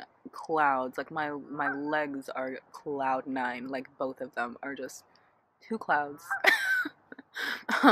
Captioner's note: laughs